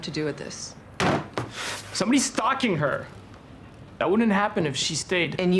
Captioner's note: bangs table